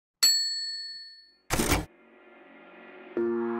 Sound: bell dings

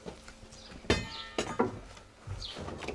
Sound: metallic clatter

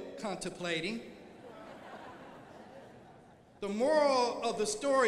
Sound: crowd laughing

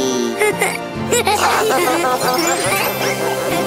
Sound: laughter

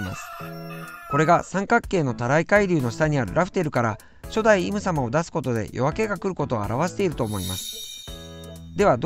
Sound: rooster

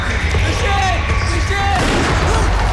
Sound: gunshot

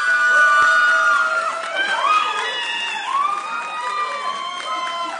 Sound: audience cheering

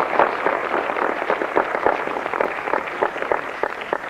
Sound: applause

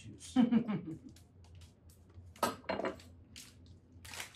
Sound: Rachael laughs

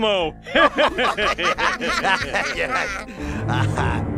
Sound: laughter

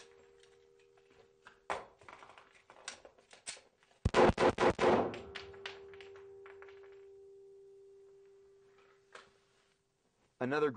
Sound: gunshots

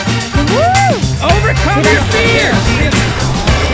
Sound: cheering

